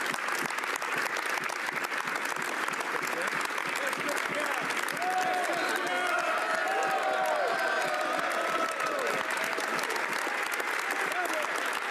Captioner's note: applause